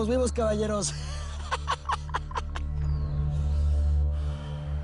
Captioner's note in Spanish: Risas